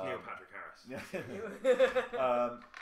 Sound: laughter

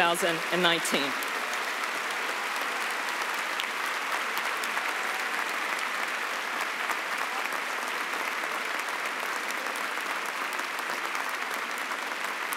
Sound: cheering and applause

